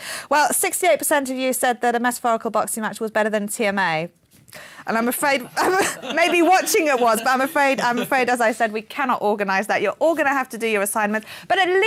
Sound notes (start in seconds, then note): 5.5 laughing